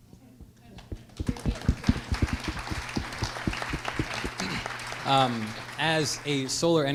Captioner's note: applause